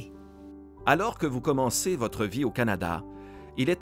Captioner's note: Voix off masculine